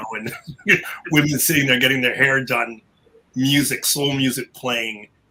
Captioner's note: laugh